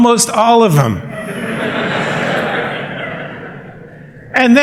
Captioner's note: laughter